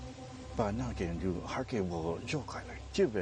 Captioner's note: speaking Chinese